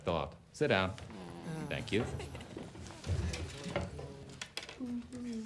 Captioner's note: students groan